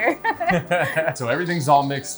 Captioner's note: both laughing